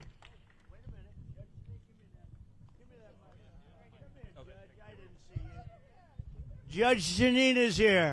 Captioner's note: indistinct conversation